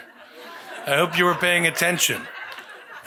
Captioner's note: audience laughing